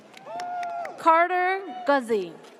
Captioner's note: audience cheers